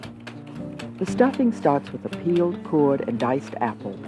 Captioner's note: voiceover